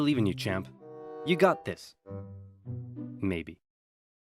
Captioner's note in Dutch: zachtjes